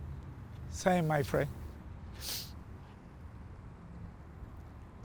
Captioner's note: sniffles